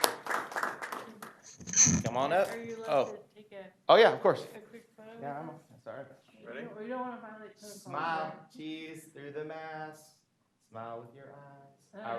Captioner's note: applause